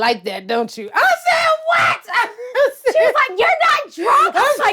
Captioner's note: laughs